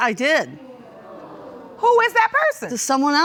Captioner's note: audience groaning